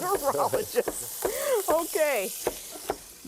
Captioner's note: laughter